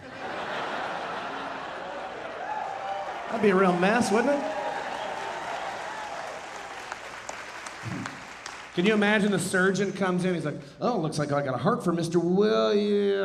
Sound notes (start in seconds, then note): 0.0 audience laughing; 4.5 audience laughing, cheering and applauding